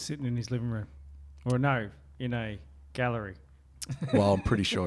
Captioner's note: laughs